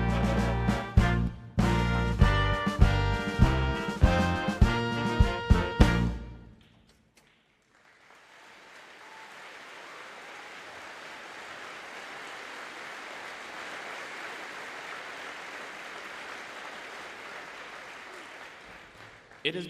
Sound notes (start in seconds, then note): 7.9 audience cheering and applauding